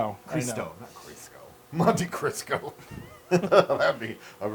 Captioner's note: laugh